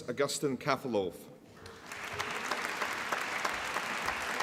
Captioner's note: applause